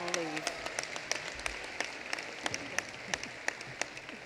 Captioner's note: applause